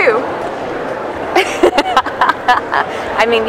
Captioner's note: laughs